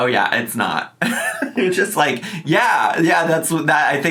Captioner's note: laughing